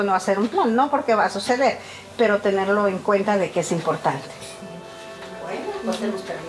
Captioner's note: continues speaking in Spanish